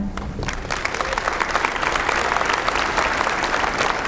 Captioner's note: applause